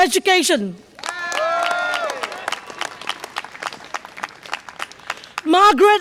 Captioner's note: audience applause and cheer